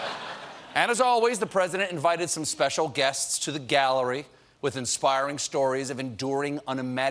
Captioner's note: laughter